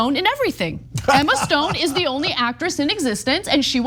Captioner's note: laugh